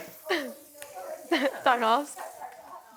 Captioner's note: giggling